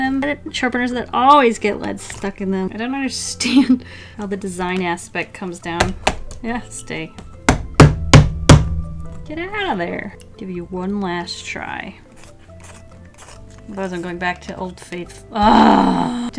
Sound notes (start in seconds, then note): 5.8 smack, smack; 15.4 urgh!